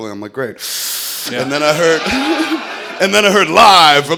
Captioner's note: sucking noise